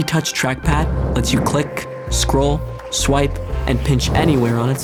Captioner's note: whooshing